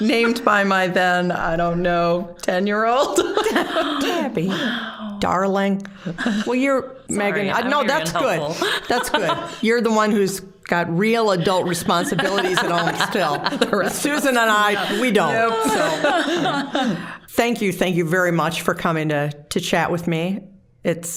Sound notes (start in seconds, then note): 11.3 all laughing